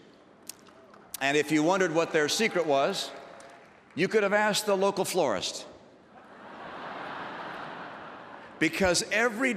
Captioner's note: laughter